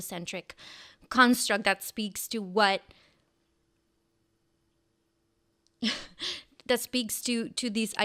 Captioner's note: chuckles